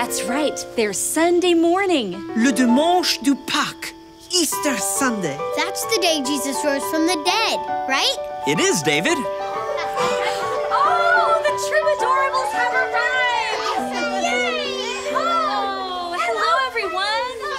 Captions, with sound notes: But remember! The Cross is not the end of the story. That's right! There's Sunday morning! Le dimanche de paques! Easter Sunday! That's the day Jesus rose from the dead, right? It is, David! (children approaching) Oh! The Troubadorables have arrived!